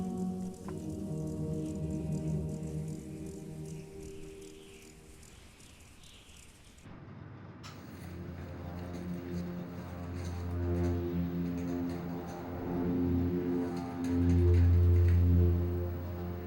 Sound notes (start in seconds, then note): 4.0 wind whistling; 8.8 keys clicking; 9.0 eerie music